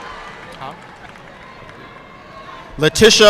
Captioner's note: student faintly speaking